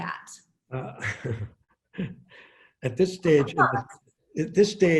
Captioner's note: chuckles